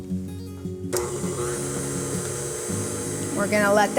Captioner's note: blender whirling